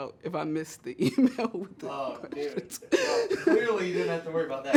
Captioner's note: laughs